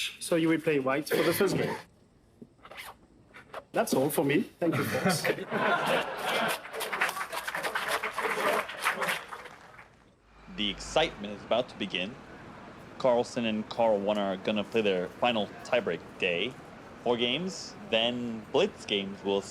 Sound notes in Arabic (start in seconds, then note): 4.7 يضحك الجمهور; 5.5 الجمهور يصفق